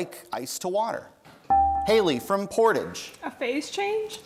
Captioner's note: bell rings